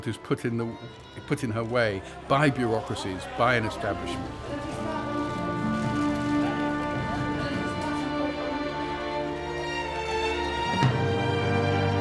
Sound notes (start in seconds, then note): 5.1 crowd clamoring; 5.1 cameras clicking; 5.4 dramatic instrumental music